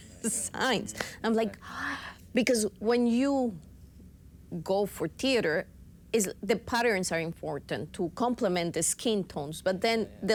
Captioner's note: gasp